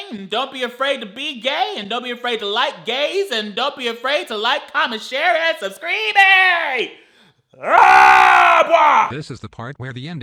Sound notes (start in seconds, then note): 7.7 shouts; 9.2 computer Voice